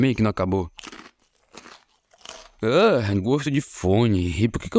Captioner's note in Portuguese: Crunch Crunch Crunch